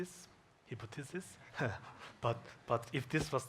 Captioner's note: chuckles